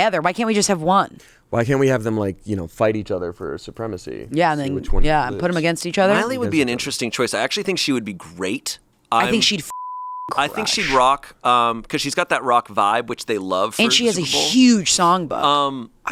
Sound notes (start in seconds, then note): 9.7 beep